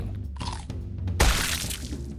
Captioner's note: chomp; squelch